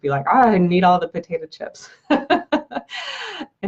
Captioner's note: laughs